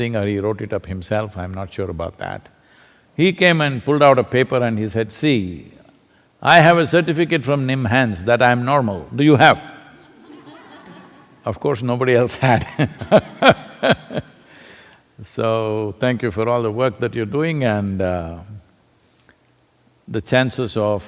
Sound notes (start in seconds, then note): 10.0 laughter; 12.5 laughs